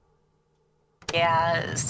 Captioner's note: click